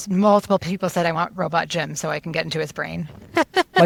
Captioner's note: laughs